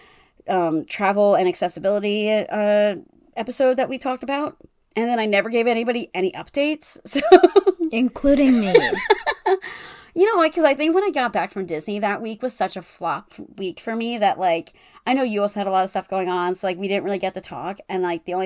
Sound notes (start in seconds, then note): 7.2 laughing; 8.4 laughs